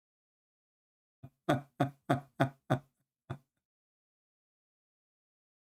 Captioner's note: Ketawa